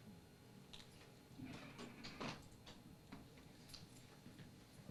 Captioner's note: door creaks